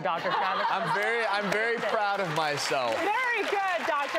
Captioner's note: clapping